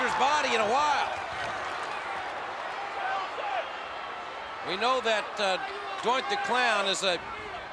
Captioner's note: applause